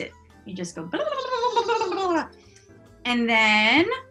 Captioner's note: makes gobble noises